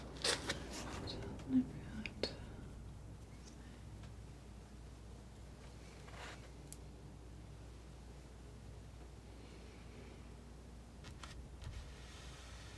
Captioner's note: scratching